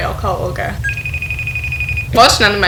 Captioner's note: ringing